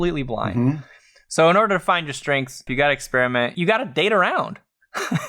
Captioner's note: laughs